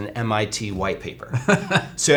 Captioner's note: chuckles